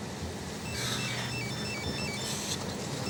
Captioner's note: phone ringing